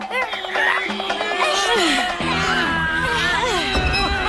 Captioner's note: grunting